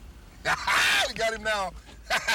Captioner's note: laughs